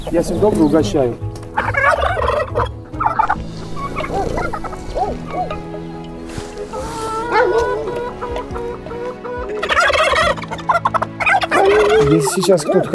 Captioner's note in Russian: звуки животных